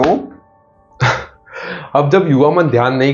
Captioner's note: laughs